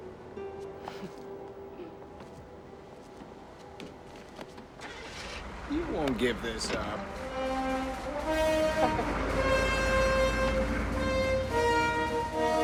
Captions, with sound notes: [ Chuckles ] [ Ignition Starts ] YOU WON'T GIVE THIS UP. [ Victoria Laughs ]